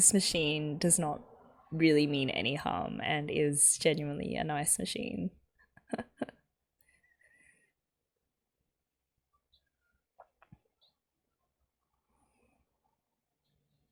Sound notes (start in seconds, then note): 5.9 laughs